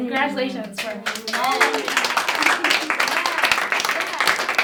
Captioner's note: applause